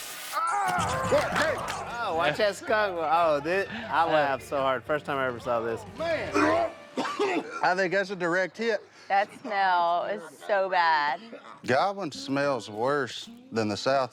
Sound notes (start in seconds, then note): 0.3 screaming; 6.6 heaving